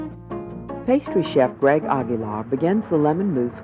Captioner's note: voiceover